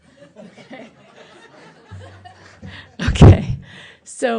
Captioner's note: laughter